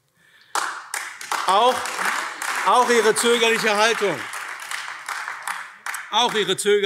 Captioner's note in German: Beifall AfD